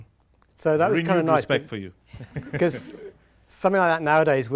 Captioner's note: laughing drowns out speaker